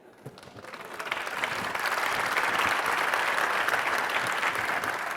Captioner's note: audience applauding